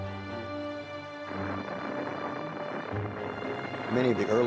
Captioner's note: rocket firing